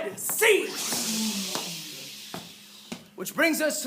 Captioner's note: whooshing